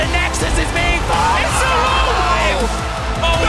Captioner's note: screaming